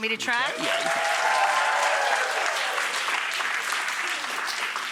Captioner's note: audience applauding